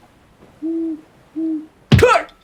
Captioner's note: owl hoots; shouts, thud